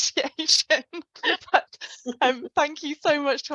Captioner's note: laughs